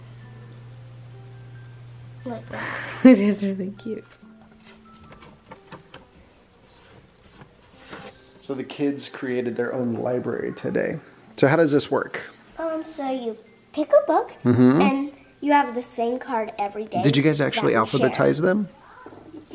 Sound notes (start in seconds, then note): 0.2 soft music; 2.6 chuckles; 4.5 paper rustles